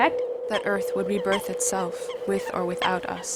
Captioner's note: voiceover